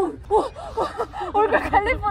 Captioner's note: laugh